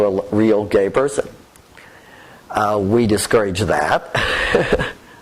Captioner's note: laughs